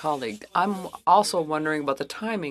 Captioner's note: speaking French